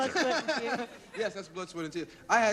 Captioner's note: laughter